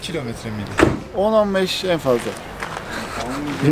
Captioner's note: he laughs